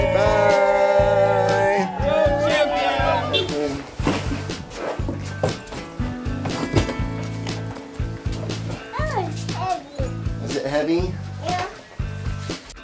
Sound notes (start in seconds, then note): 0.0 group cheers; 2.9 car honks